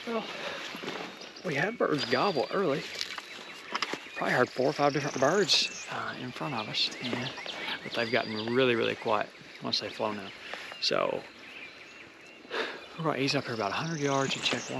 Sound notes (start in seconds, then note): 12.5 exhales sharply